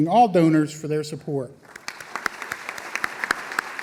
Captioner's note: applause